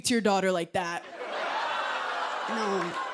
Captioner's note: laughter